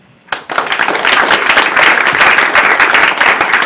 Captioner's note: applause